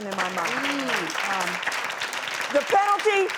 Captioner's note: applause